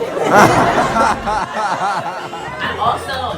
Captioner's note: audience laughs